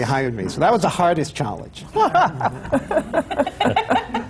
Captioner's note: laughter